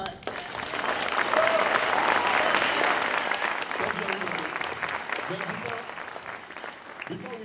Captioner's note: applause